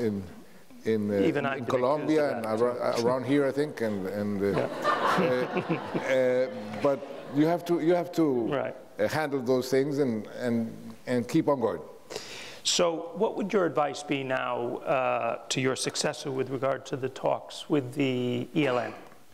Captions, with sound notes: - Even I get accused of that. - In Colombia and around here, I think. (audience laughs) But you have to handle those things and keep on guard. - So what would your advice be now to your successor with regard to the talks with the ELN,